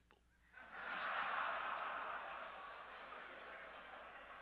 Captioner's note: audience laughing